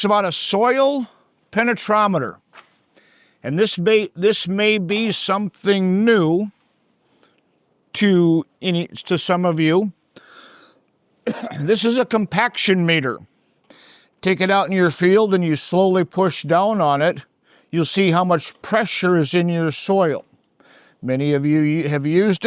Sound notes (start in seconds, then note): 8.6 coughs